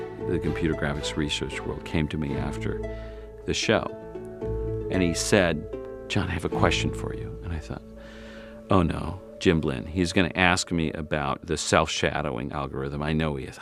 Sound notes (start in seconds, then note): 8.0 sighs